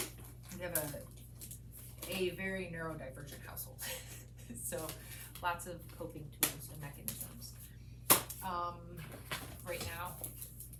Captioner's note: giggle